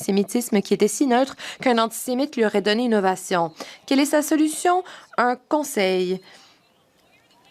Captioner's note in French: voix de l'interprète